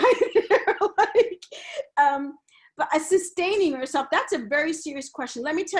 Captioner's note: laughs